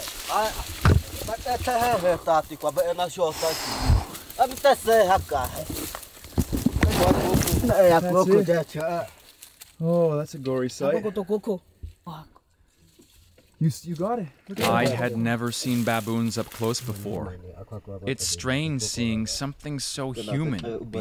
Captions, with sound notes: (man speaking foreign language) - Oh, that's a gory sight. (man speaking foreign language) You got it. I had never seen baboons up close before. It's strange seeing something so human